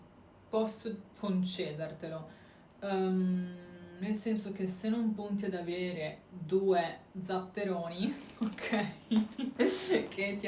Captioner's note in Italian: risate